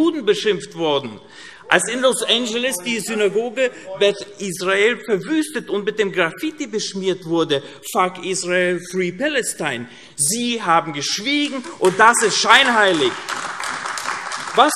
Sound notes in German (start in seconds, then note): 12.9 Beifall AfD